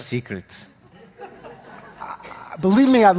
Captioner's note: audience laughing